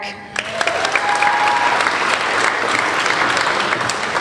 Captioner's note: applauding